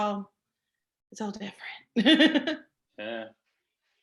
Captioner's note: laughs